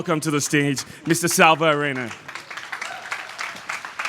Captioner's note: applause